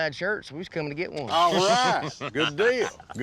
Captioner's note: laughter